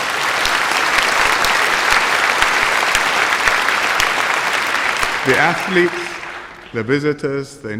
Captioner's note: applause